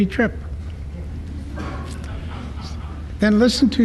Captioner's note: laughter